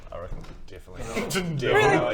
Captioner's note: scoff